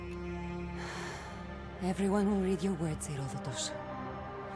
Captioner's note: exhale